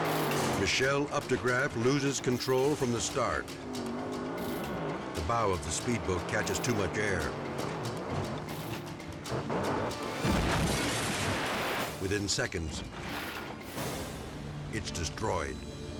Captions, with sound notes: Michelle Updegraff loses control from the start. The bow of the speedboat catches too much air. (tense music) (boat crunching) Within seconds, it's destroyed.